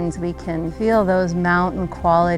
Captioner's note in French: none